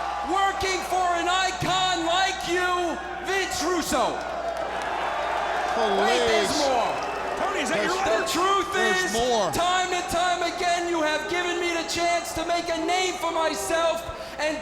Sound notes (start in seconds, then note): 4.2 audience shouting